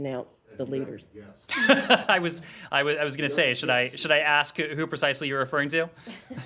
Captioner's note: laughter